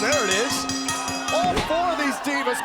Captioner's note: bell ringing